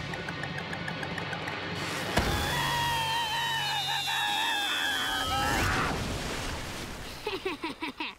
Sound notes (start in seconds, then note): 2.2 screaming; 7.2 laughing